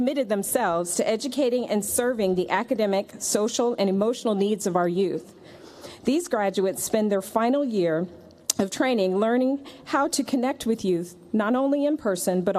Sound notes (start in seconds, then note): none